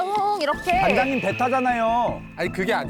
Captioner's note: awkward sound effect